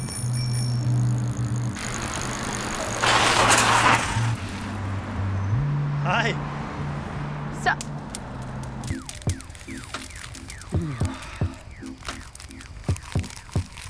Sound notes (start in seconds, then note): 0.0 bicycle bell rings; 3.1 tire screeches